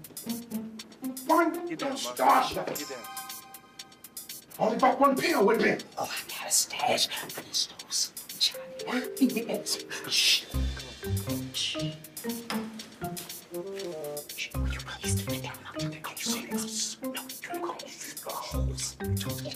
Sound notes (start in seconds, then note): 6.5 whispering; 9.5 chuckling; 14.6 whispering